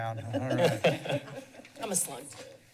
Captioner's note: laughs